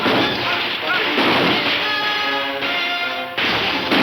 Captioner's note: guns firing